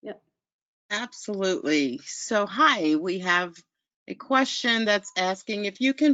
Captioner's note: voiceover